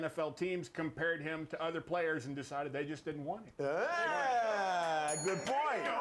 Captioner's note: bell rings